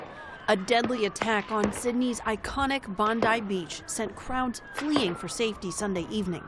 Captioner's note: voice-over